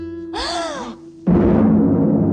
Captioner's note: gasping; menacing music